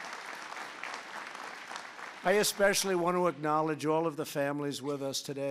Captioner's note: applause